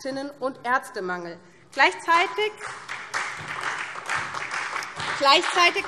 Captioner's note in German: Beifall SPD